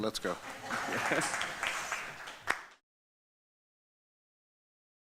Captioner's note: audience applauds